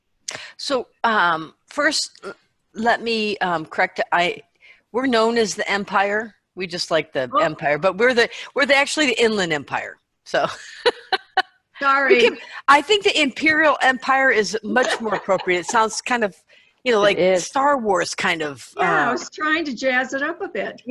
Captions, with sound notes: >> First, let me correct it. We're known as the Empire. We just like the Empire, but we're actually the Inland Empire. [laughing] >> Sorry. >> I think the Imperial Empire is much more appropriate. It sounds kind of like Star Wars kind of… >> Yes, I was trying to jazz it up a bit.